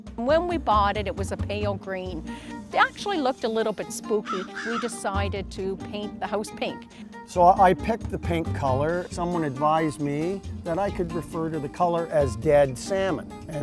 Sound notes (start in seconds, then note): 4.1 birds cawing